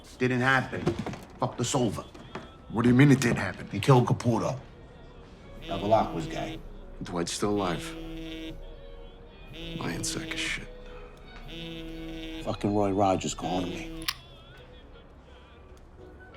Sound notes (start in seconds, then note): 5.6 telephone buzzing